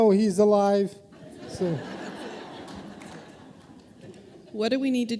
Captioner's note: audience laughing